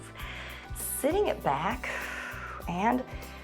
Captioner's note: exhales